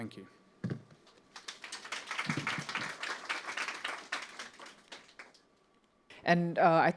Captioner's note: applause